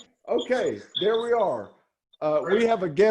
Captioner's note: squeaking radio waves